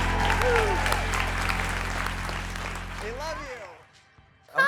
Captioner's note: audience applauds